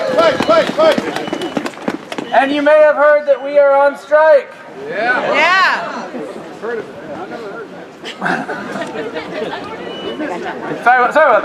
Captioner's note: applause